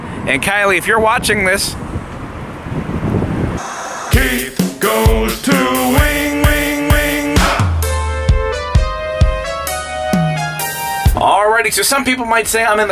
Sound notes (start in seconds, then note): 3.6 static hissing; 8.0 upbeat music